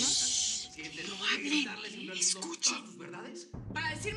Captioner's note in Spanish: En voz baja